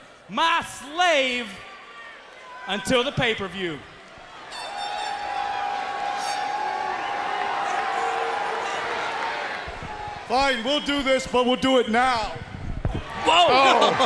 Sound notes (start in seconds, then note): 4.4 crowd cheering